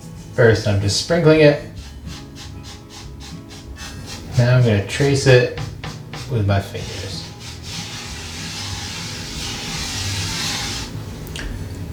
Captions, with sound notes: First, I'm just sprinkling it, (scratchy noise of flour rubbing) then I'm going to trace it with my fingers. (scratchy noise of flour rubbing)